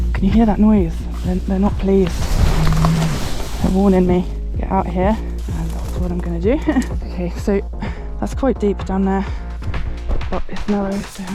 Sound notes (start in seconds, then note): 2.4 moo